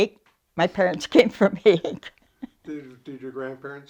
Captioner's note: chuckles